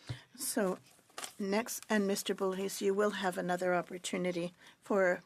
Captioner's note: speaking French